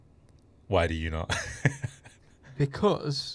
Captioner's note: laughing